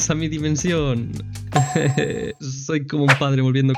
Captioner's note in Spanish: Risa incómoda